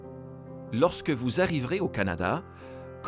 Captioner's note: Voix off masculine